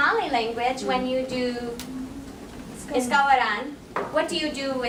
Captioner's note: foreign language spoken